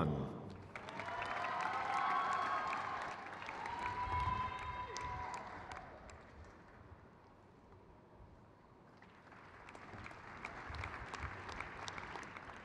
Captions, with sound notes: Selina R. Kasab. (crowd cheers)